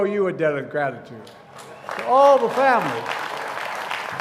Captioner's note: applause